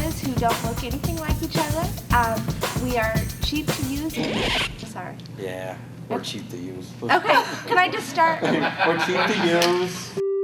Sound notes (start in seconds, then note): 3.4 record scratch